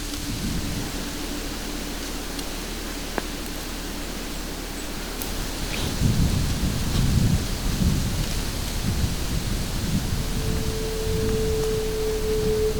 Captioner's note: sound of light wind